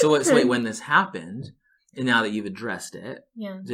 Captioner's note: laughing